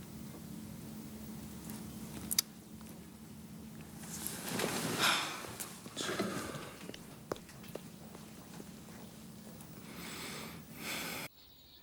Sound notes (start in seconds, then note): 4.0 Jodie sighs